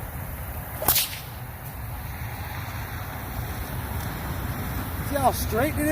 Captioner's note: sling whip-snaps sharply